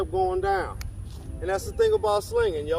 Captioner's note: snaps fingers